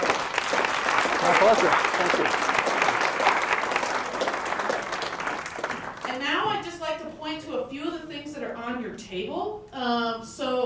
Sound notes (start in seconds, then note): 2.0 applause